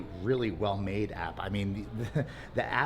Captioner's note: laughs